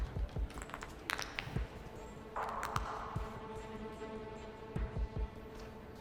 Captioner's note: cracking knucles